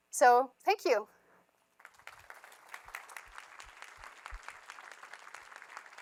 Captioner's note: applause